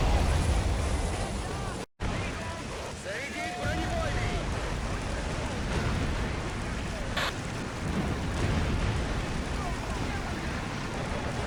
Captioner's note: battlefield chaos